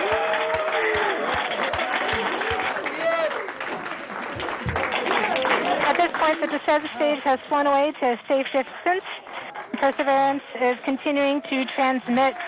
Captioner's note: applause